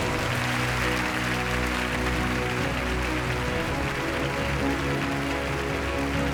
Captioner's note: audience applauds; wondrous music